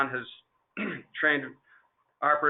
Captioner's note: clearing throat